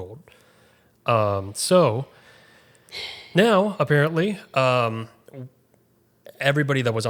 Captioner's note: sighs